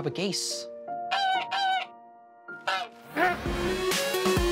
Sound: honks

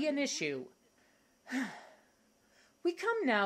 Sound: sighs

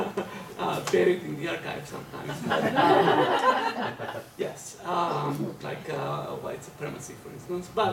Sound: laughter

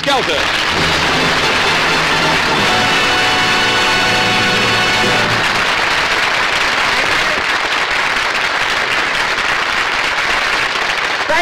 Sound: applause

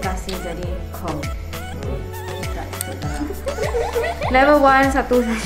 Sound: laughs

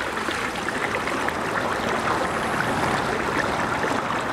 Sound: water splashing

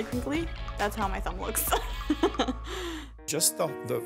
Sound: laughs

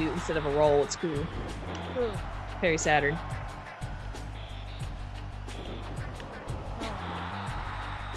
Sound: applause

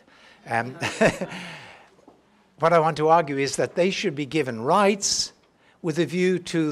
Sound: laugh

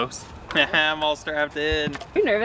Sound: laughs

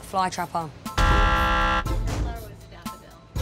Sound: buzzer

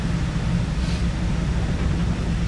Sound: Snif

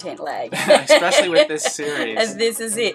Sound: laughter

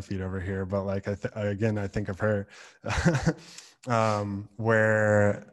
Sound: laughs

